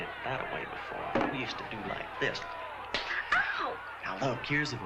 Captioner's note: slap